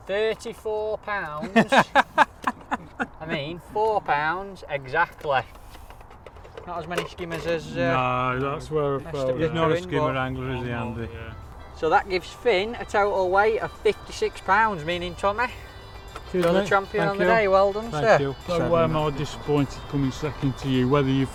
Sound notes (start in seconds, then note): 1.4 laughing